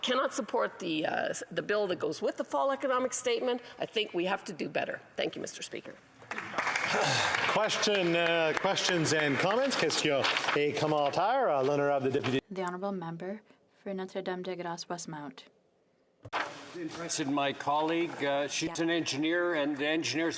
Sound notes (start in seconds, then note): 9.0 applause; 14.5 speaking French